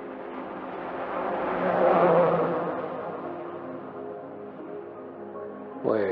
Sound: traffic sounds

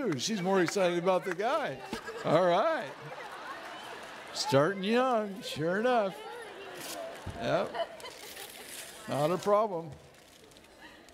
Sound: laughing

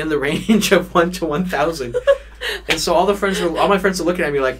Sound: both laugh

